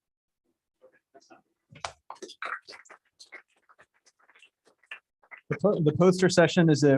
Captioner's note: applause